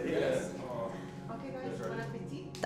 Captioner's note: speaks in foreign language